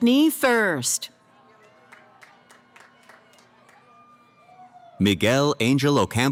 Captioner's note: cheering